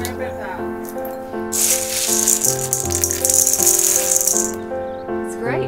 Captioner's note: beans crinkling in bowl